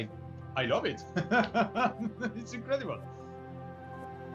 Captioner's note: laughter